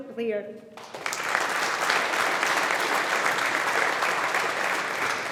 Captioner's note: audience applauding